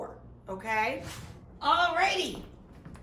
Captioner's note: whoosh